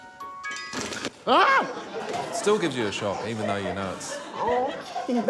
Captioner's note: music box chimes; screams